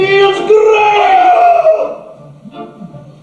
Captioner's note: Soviet howls in pain